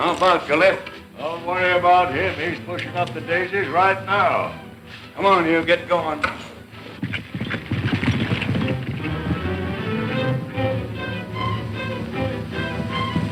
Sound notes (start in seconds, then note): 7.4 galloping hooves; 8.3 dramatic orchestral music